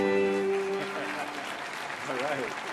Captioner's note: audience applauding